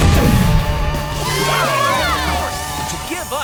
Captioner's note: cheering